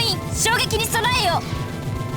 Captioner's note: none